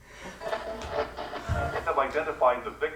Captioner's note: radio static